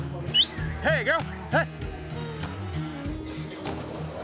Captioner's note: whistling